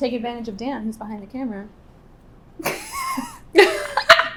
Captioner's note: laughing